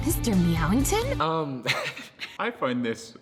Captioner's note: chuckles